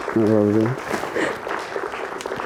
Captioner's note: sniffling